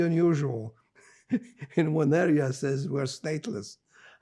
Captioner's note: laughing